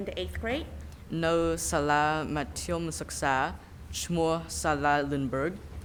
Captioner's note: speaking in a foreign language